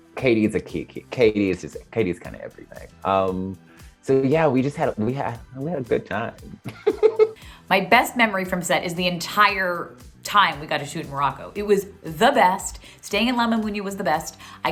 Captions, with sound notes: Katie is a... Katie's kind of everything. So yeah, we had a good time. (giggles) - My best memory from set is the entire time we got to shoot in Morocco. It was the best staying in La Mamounia was the best.